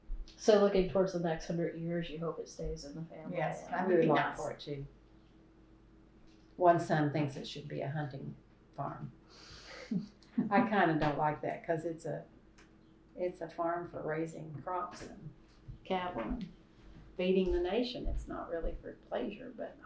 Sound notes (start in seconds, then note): 9.4 laughs